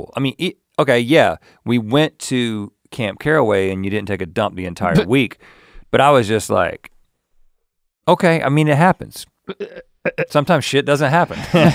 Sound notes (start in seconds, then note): 5.3 chuckles; 11.2 chuckles